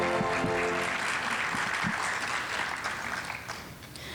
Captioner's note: audience applauding